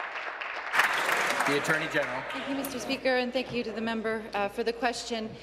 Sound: applause

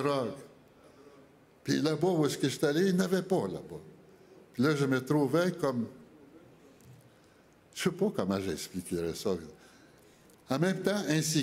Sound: speaking French

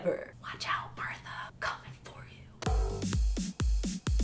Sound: whispering

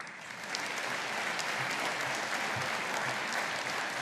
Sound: audience applauding

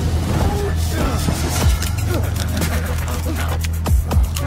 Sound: punches thumping; men groaning

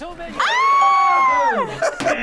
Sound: both scream; laughs

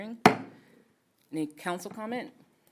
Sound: gavel

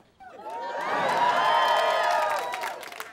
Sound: cheering

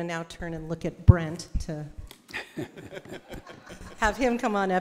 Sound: attendees laughing

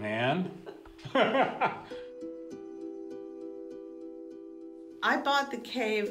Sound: laughs

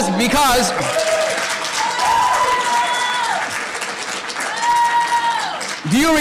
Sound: audience cheering and applause

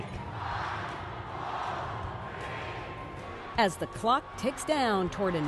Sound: cheers

